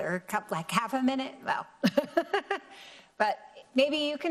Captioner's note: laughs